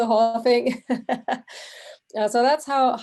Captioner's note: laughing